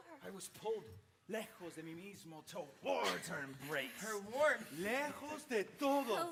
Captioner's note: speaking Spanish